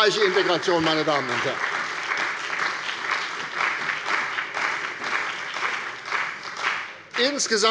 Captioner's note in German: Beifall bei der CDU und dem BÜNDNIS 90/DIE GRÜNEN